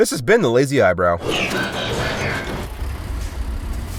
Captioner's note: transformation noises; truck noises